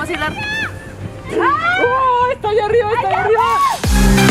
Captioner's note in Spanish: grita